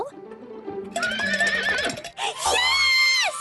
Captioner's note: whinnies